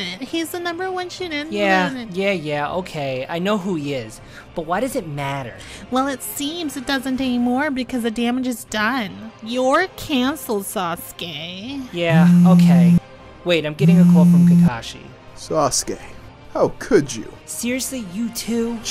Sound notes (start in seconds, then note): 13.8 phone buzzing